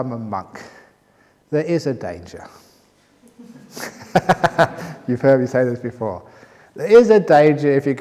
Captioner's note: laughter